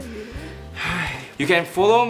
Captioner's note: sighs